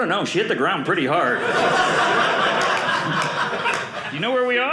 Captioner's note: audience laughing